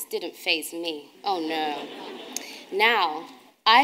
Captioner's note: audience laughing